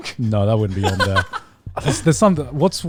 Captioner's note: laughing